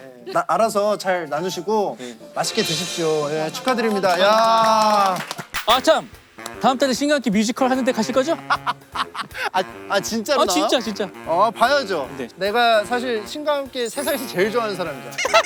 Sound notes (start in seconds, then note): 8.3 laughing